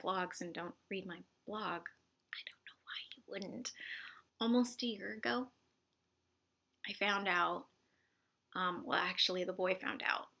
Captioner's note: whispered* I don't know you wouldn't